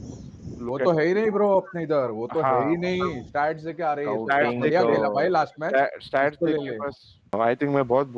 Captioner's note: mockingly